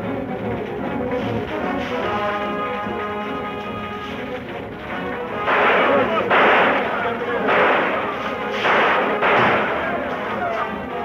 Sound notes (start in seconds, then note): 5.2 natives shouting; 5.3 gunshots banging